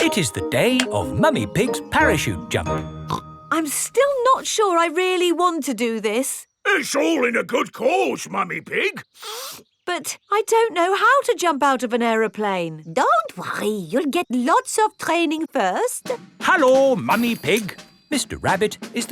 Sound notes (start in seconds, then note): 0.0 clanking; 9.0 sniffs